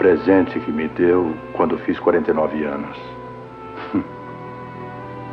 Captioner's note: scoffs